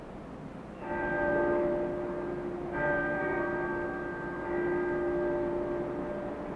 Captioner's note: church bells chiming